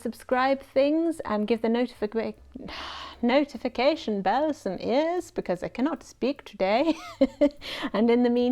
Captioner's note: sigh